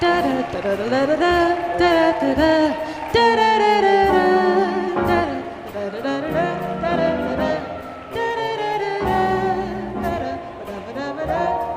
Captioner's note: cheering and applause